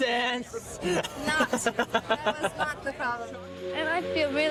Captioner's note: Quentin laughing